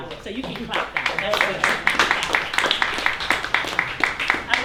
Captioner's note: applause